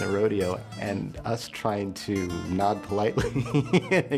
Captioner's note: laughter